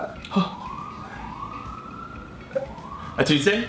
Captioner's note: gasps